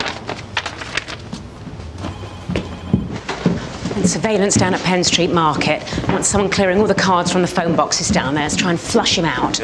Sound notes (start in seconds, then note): 1.9 phone ringing